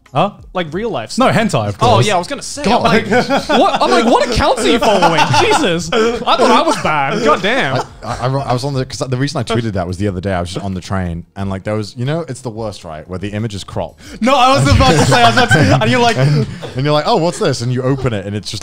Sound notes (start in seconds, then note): 5.4 laughing